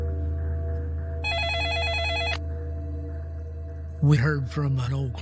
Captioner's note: phone ringing